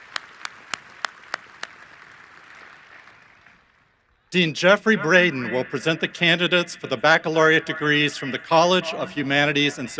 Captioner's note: applause